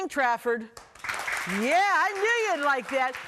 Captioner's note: children clapping